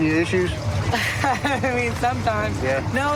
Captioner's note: laughs